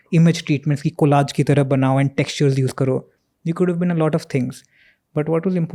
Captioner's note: speaks in Hindi